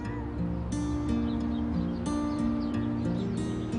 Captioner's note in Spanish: Llanto del bebé